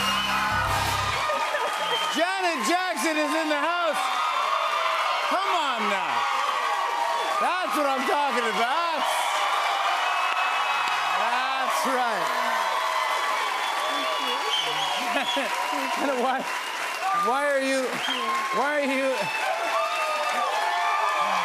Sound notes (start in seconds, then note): 1.2 laughs; 14.5 laughs; 18.3 cheers and applause